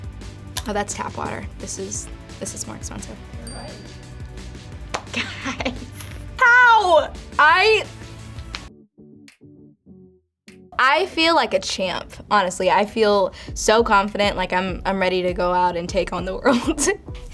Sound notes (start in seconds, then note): 3.4 bell chimes